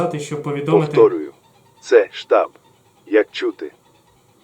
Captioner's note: radio